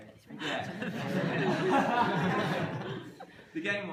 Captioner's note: laughter